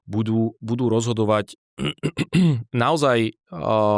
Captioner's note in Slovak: odkašľanie